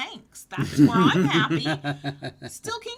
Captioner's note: laughs